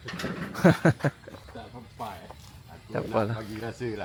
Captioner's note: laugh